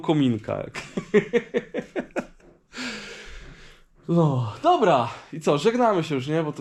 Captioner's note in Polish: śmiech